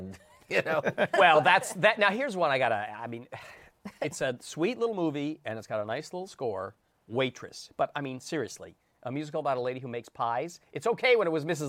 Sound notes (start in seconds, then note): 4.0 sighs